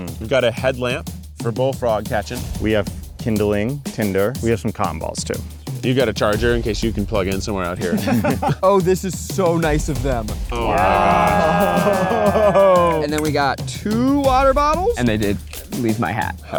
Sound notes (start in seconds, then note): 7.8 all laugh; 10.5 all cheer